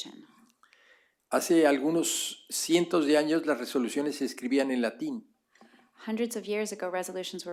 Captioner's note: spanish